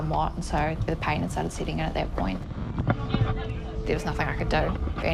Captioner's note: loud commotion